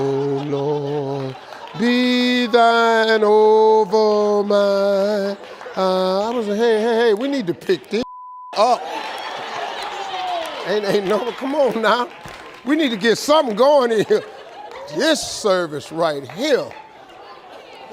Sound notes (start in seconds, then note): 8.0 beep; 8.6 audience laughs